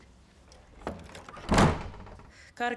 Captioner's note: door clattering